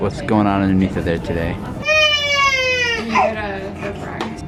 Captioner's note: crying